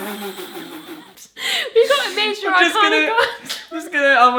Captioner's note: laughing